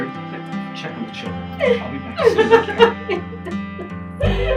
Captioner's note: sobs